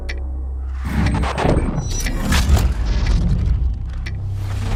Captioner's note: static